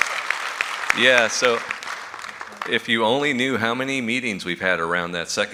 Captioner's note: applause